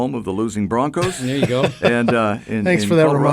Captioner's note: chuckles